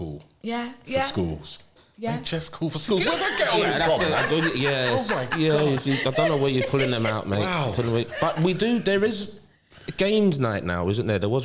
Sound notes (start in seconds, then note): 3.0 laughter